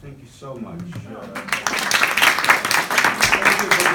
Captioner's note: group claps